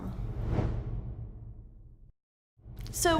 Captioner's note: air whooshing